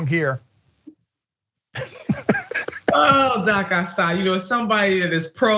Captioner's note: laugh